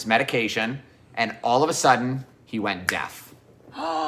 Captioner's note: sighs